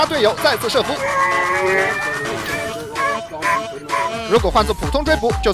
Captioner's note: over radio